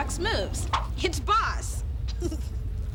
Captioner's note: laughs